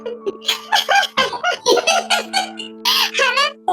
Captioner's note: laughs